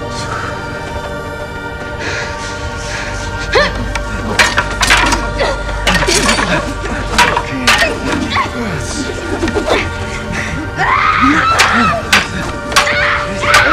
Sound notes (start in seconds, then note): 2.6 grunting; 10.5 shrieking